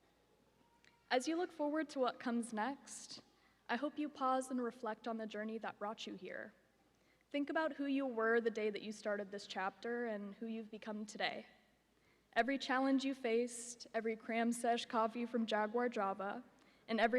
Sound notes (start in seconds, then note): none